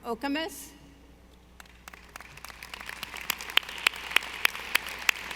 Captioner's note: audience applauding